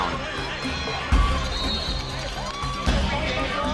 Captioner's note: cheering from the crowd